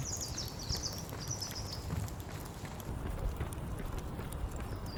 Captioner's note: birds chirping